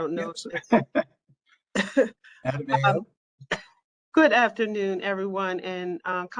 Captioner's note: laughter